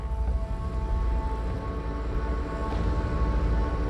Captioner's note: engine accelerates